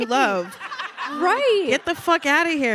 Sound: audience laughing

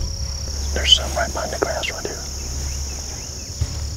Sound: whispering

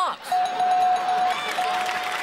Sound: bell dings; audience chuckles; audience claps

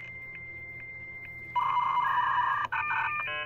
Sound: beeping

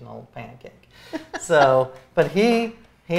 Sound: laughs

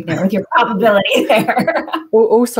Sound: laughter

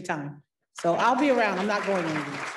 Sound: parents clapping

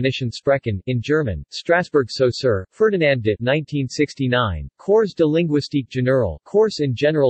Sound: in German

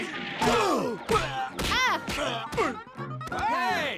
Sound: groaning

